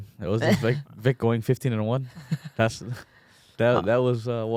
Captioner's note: laughs; laughs